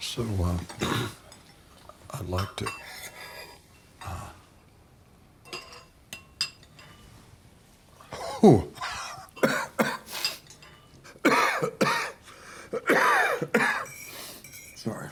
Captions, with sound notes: So I'd like to-- ooh. [COUGHS] Sorry.